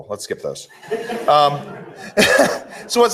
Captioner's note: laughter